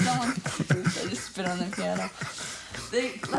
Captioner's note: both chuckle